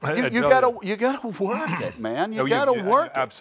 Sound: clears his throat

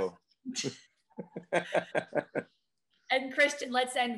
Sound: laughs

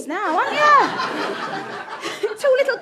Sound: audience laughter

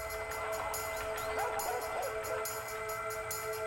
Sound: dog barking

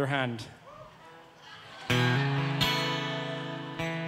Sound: cheering; mellow folk music

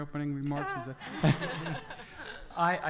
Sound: audience laughter

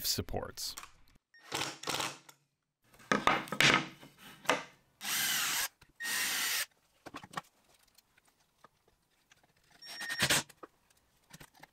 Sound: drill and impact being used to assemble table

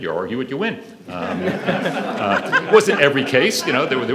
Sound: audience laughs

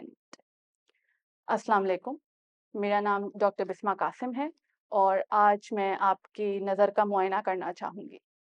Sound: in Urdu

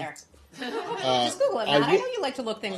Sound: laughter

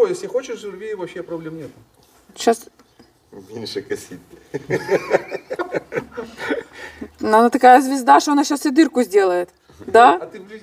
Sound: laugh

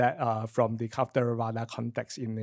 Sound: foreign speech

